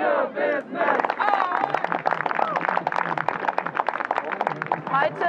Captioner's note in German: Clapping